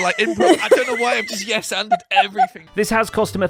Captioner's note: group laughs